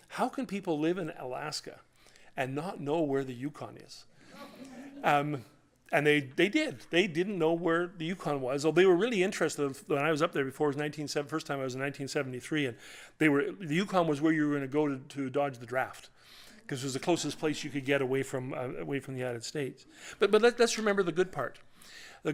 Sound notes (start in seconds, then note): 4.3 laughter